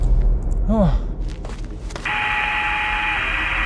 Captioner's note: Jack groans; static buzzing